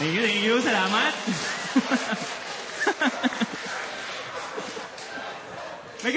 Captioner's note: audience cheering, laughing; laughter; laughs